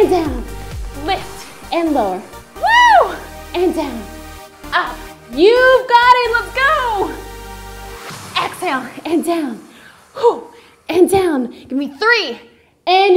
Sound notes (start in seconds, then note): 2.6 screams; 9.4 gasps